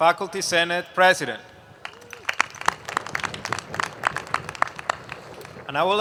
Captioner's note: applause